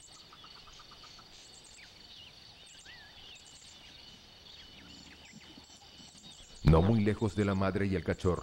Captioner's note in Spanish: sonidos selváticos